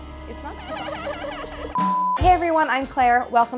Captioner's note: sneaky laughter